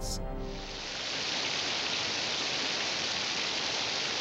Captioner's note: rain pattering